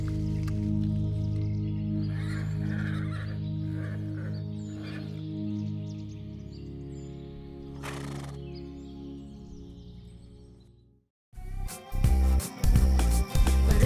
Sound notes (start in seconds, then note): 0.2 birds chirping; 2.1 horses whinnying; 7.8 horse braying; 11.4 cheerful music